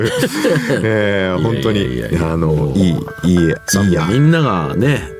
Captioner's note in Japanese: 笑い